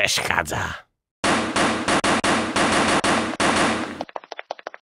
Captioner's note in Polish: pukanie do drzwi